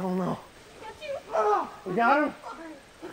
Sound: screams in pain

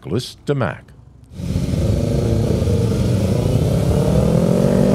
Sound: engines roaring

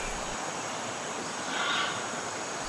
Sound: close up grass sounds; bird SQUAWK

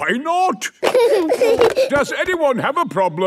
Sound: giggling

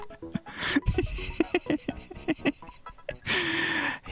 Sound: laughs

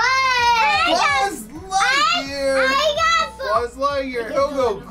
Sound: talks loudly

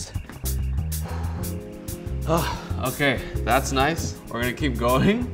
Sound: deep exhaling

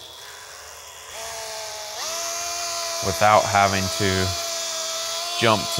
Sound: machine buzzing

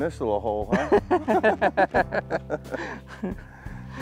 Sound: laughs

